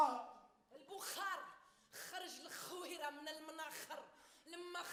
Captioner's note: women speaks Arabic